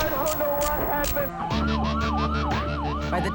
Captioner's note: police sirens